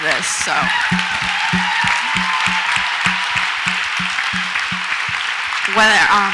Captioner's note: audience applauds and cheers